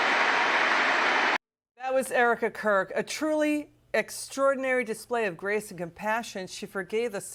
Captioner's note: applause